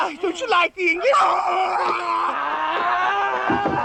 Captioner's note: screaming